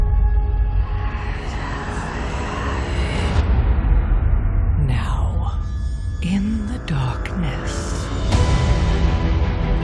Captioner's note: frantic whispering